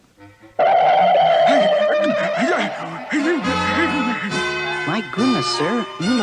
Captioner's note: Adam West Gasps